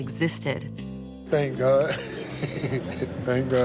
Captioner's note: laughs